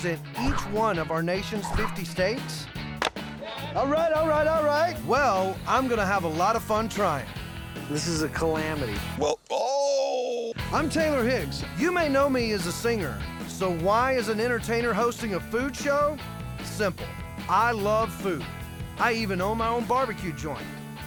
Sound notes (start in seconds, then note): 1.7 chopping